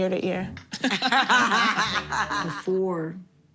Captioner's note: laughter